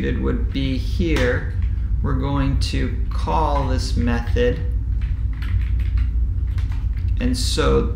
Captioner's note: keyboard typing sound